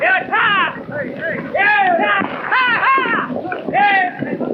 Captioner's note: men shouting